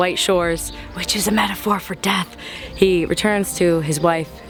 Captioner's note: whispers